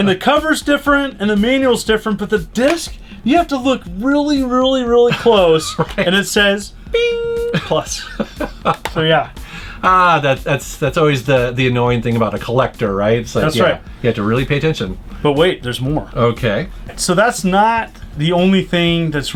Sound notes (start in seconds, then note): 5.0 laughing